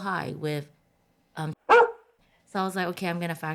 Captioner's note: bark